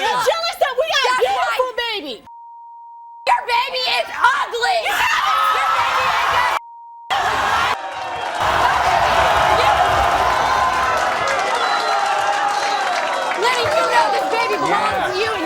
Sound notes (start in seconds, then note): 7.1 audience cheers